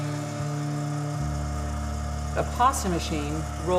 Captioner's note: machine whirring